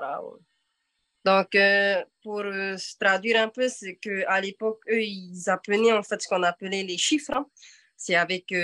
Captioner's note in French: En français